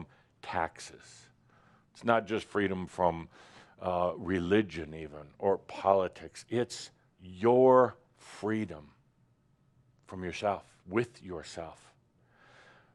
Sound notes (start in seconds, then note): none